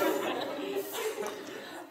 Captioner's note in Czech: smích